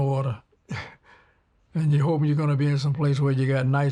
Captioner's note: laughs